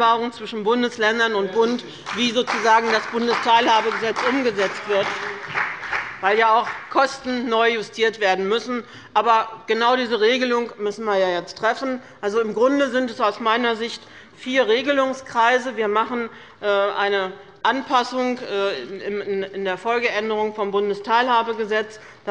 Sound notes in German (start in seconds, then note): 5.3 Beifall bei dem BÜNDNIS 90/DIE GRÜNEN und der CDU